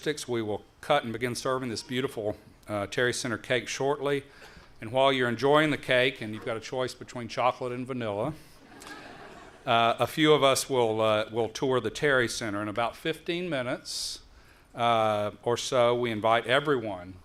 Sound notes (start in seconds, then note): 8.6 laughter